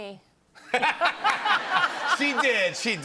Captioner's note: laughter